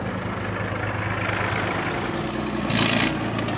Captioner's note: the sound of running engines